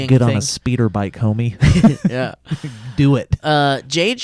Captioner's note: laughs